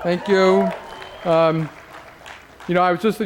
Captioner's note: cheers, applause